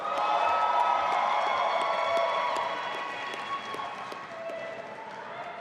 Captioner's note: audience applauding and cheering